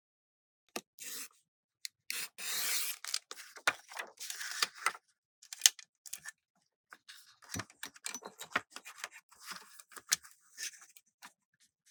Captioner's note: cutting paper